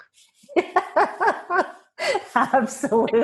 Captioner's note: laughing